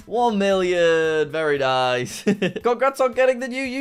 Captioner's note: laughs